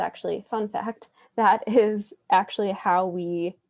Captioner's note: laughs